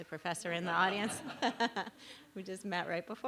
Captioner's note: laughter